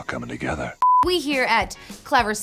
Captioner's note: beep